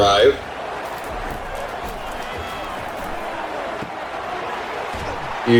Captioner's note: crowd Noises